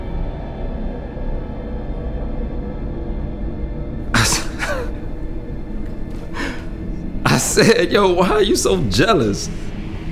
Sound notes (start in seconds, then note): 4.2 boyfriend scoffs